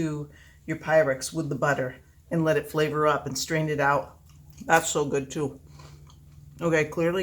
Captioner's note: food crunch